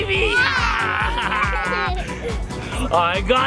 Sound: laugh

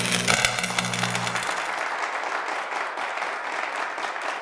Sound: applause

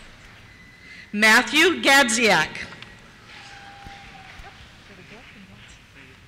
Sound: cheers

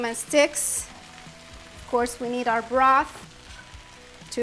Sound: pan sizzling

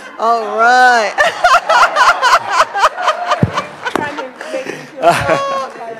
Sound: laughing

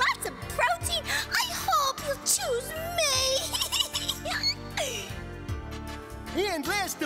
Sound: laughing

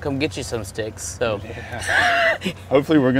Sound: laughter

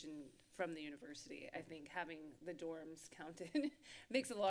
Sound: giggles

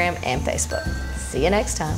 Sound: bell dinging

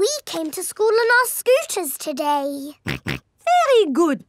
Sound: snorts

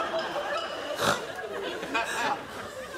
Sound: snorts

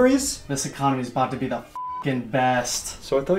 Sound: beep

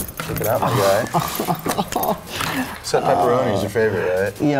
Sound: laugh

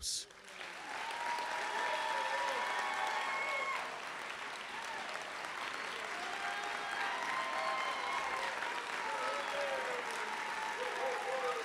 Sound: applause and Cheering

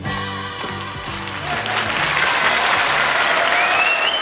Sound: audience applauds

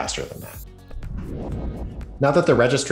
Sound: electronic rumbling

